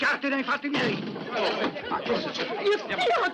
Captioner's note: clamouring